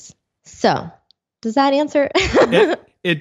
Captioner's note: laughs